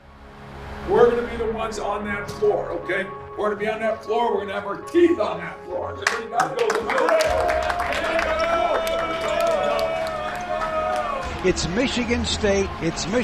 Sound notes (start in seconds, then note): 6.0 players clapping and cheering